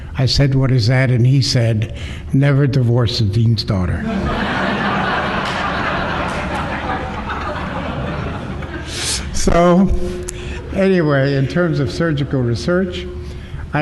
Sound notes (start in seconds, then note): 4.0 laughter